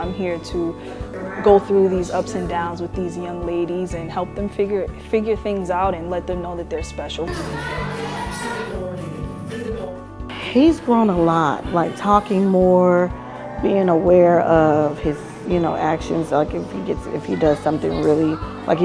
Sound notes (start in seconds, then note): 7.1 kids chattering; 7.7 upbeat music continues